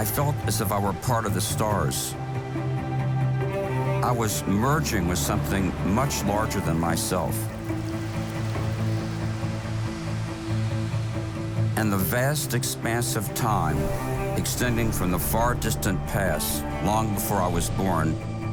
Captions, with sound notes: I felt as if I were part of the stars. (uplifting music) I was merging with something much larger than myself. (rain pattering) (uplifting music) And the vast expanse of time extending from the far distant past, long before I was born